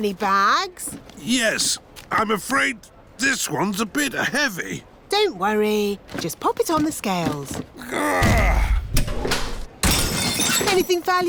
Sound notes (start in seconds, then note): 7.8 grunts; 9.8 crashes